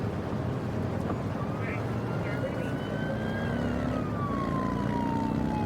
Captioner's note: siren blaring